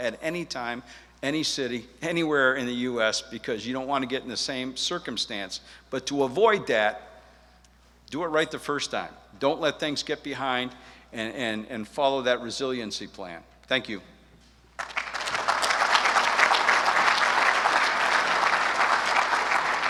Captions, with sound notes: at any time, any city, anywhere in the US because you don't want to get in the same circumstance. But to avoid that, do it right the first time. Don't let things get behind, and follow that resiliency plan. Thank you. [audience claps]